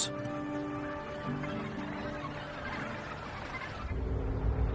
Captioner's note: seabirds chattering; ethereal music